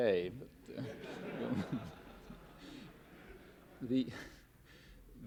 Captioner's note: laughter